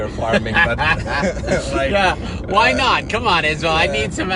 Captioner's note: laughs